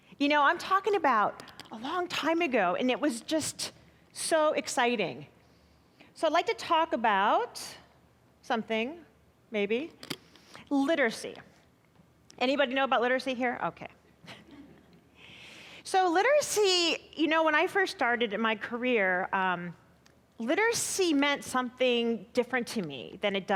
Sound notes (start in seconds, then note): 14.3 chuckling